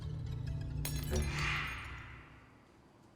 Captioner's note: eerie sound